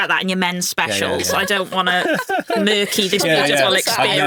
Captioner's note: chuckling